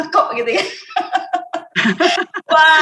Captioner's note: laughing